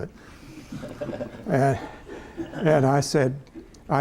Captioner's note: laughter